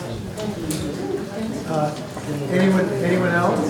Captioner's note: group chatters